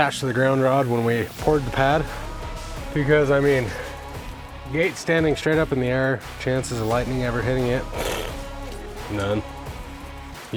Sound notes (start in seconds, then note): 7.7 razzing